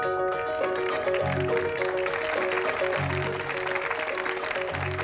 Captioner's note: audience clapping